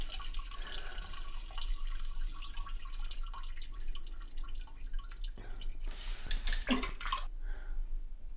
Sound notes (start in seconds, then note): 5.5 toilet splash